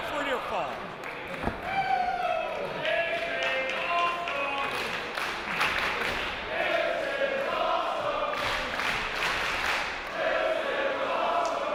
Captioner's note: applause